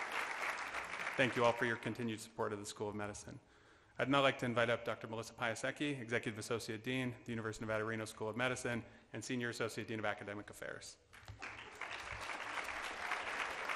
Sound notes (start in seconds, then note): 11.1 applause